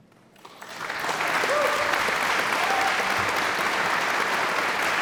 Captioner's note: audience applauds